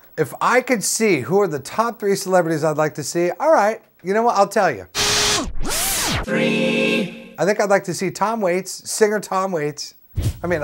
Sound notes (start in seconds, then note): 5.6 high-rev electrical motor sound effect